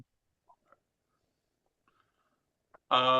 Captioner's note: silence